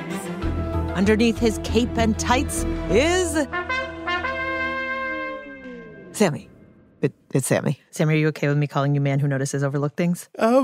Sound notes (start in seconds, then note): 7.9 whispers, as an aside